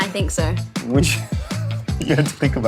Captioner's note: laughs